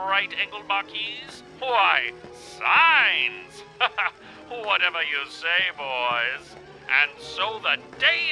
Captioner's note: laughs